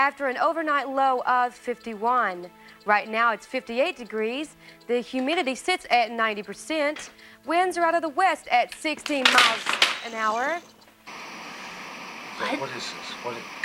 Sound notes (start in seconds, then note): 11.3 static